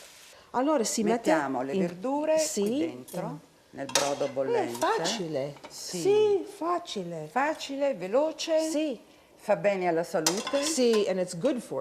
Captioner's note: speaking Italian